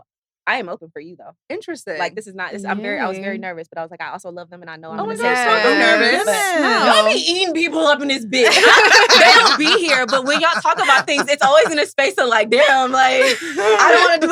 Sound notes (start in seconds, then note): 8.4 all laughing